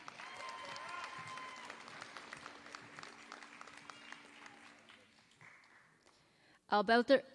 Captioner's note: applause